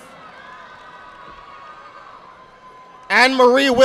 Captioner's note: audience applauding